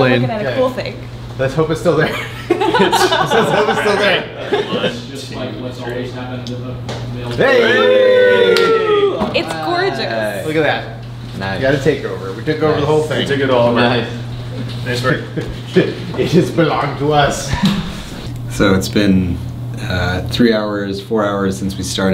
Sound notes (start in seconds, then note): 2.1 laughing; 7.4 cheering